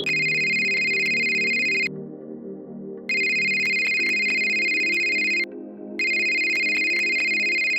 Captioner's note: phone ringing